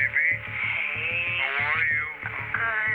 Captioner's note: on phone